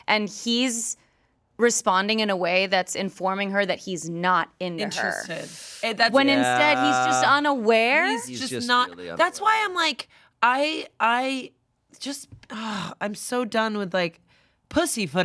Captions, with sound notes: And he's responding in a way that's informing her that he's not into her. When instead he's just unaware. - That's why I'm like, I just (sighs) I'm so done with like pussyfooting around.